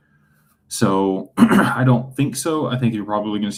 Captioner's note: clears throat